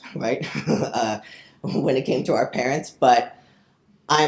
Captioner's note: chuckles